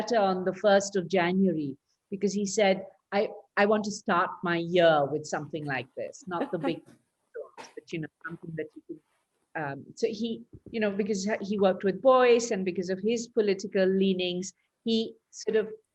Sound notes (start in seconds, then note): 6.4 laughs